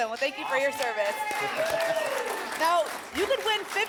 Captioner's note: applause and cheering